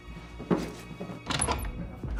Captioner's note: door opens